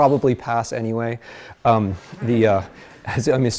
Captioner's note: class laughs